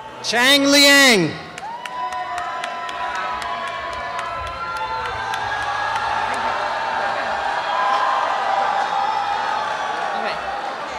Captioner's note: cheering and applause